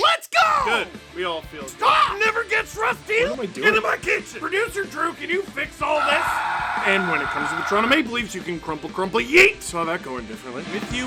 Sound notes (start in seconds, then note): 5.9 screaming